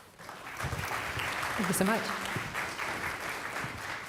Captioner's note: applause